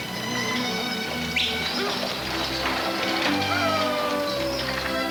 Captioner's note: pleasant orchestra music; yelling at horses